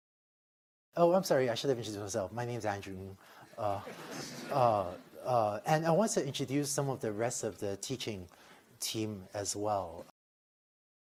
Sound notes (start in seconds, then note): 3.5 laughter